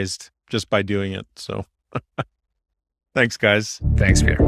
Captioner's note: laughs